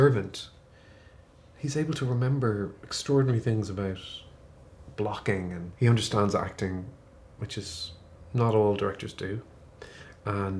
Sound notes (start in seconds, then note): none